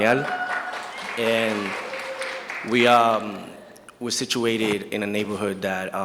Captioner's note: audience cheers and applauds